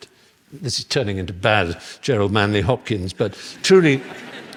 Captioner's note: laughter